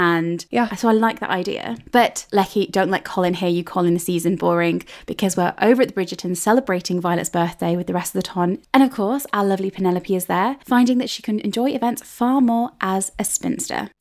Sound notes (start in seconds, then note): none